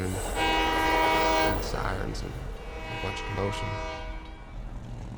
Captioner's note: flashback to train horn; train horn, truck engine whirring